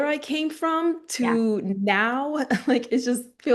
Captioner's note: laughing